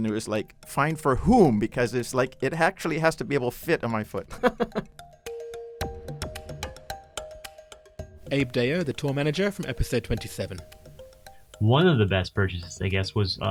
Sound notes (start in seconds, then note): 5.5 voiceover